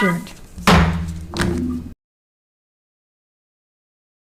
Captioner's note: gavel bangs